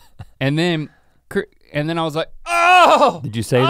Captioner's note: Rhett chuckles; groans dramatically